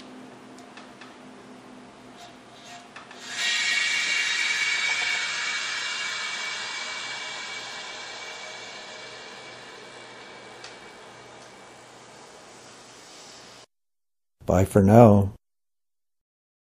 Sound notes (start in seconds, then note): 3.1 sound of air rushing into the chamber